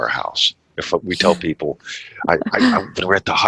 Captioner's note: laughs